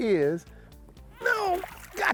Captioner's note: grunt